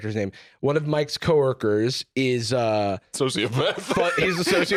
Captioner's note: laughs